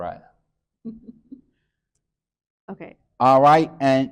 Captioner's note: chuckles